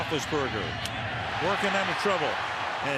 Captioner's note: cheering